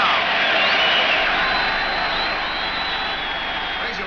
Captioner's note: crowd cheers